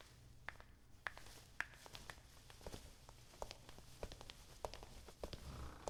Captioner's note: footsteps